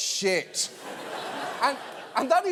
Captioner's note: audience laughing